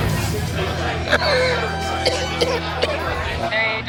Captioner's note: coughing